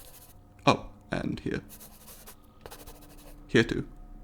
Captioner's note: pencil scribbling; pencil scribbling